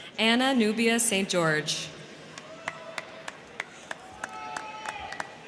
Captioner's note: crowd cheering